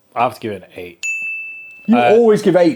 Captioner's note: bell dinging